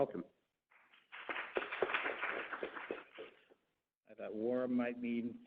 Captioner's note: applause